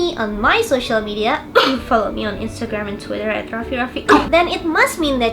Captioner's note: cough